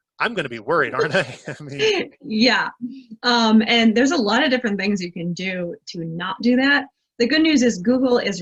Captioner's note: laughs